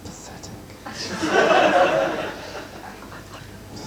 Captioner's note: audience laughing